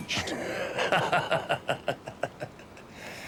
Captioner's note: laughing